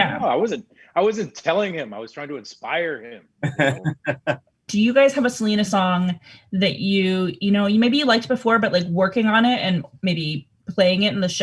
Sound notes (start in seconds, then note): 3.4 laughing